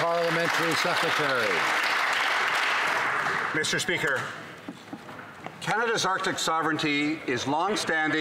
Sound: some Applause

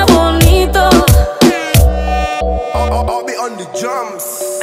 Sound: cornetas

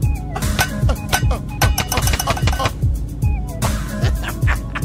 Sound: windshield tapping; man laughing

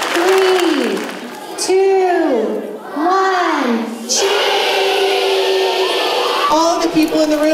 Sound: applause

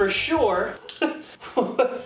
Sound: laughs

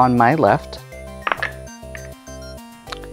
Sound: dice clattering

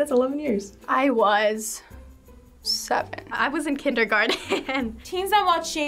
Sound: chuckles

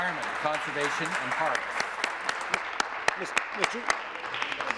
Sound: applause

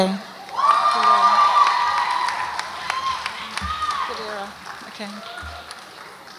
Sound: audience applauds and cheers

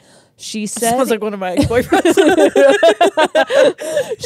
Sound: laugh

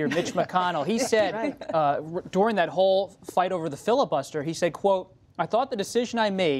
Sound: laughter

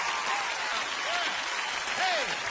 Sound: audience cheering

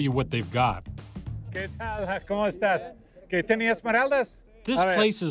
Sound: speaking Spanish

